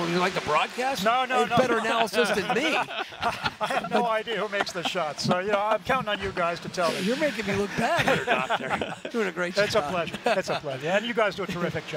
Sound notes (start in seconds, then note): 1.4 laughter